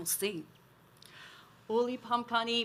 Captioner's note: speaks Native American language